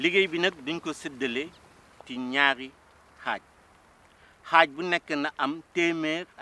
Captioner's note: repeats sentence in Wolof language